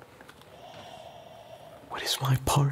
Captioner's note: breathing heavily